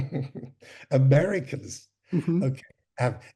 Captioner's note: chuckles